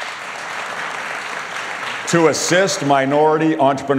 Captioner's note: applause